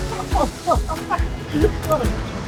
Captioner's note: laugh